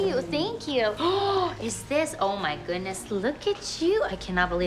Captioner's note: gasps